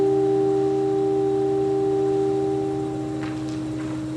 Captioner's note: low pitched humming